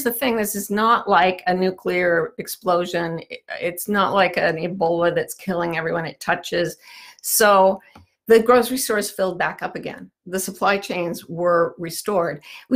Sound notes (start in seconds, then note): none